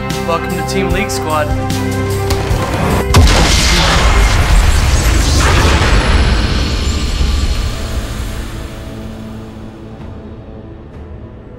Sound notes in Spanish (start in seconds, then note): 3.1 sonido de pantalla de Derrota